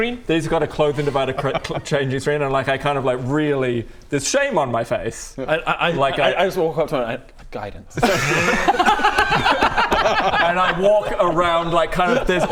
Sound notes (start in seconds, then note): 8.0 laughs